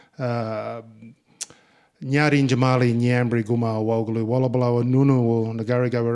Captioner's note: speaking in Ngunnawal